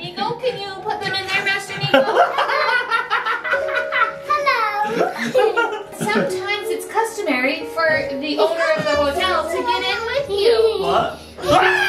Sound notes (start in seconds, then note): 2.0 laughs